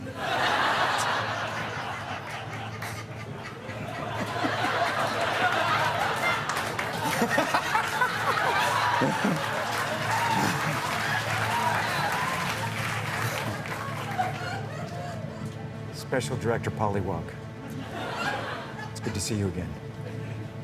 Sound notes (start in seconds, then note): 0.2 laughter; 3.8 laughing; 5.9 laughter; 9.3 cheers and applause; 12.0 chuckles; 17.7 laughter